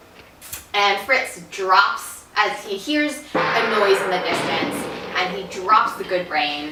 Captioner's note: gong noise in film clip